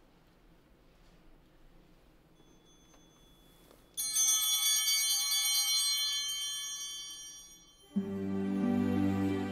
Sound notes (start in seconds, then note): 3.9 bell ringing